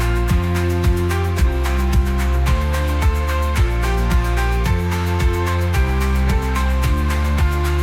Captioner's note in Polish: Aplauz